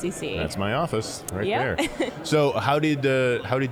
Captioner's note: laughing